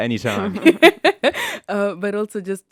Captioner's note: chuckles